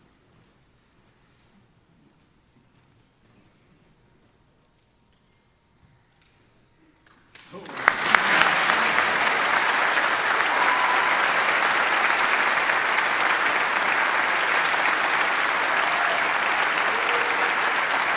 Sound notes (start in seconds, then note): 7.7 audience applauding; 10.7 audience cheering